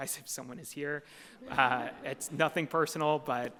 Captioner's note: audience chuckles